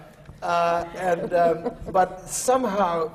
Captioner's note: laughter